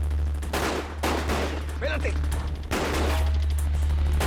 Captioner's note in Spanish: Disparos